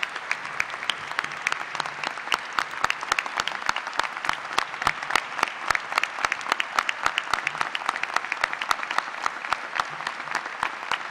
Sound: applause

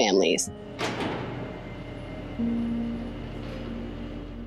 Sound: door opens

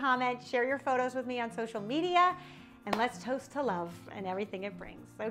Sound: claps; guitar music

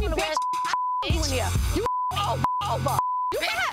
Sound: beep

